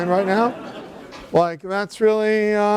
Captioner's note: laughter